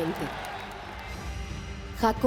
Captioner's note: crowd applauding